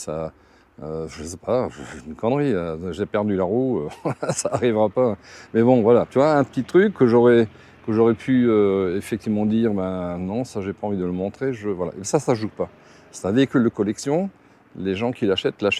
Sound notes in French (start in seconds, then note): 1.6 raclement de gorge; 3.8 rires